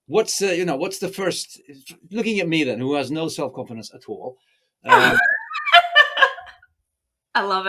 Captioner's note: laughs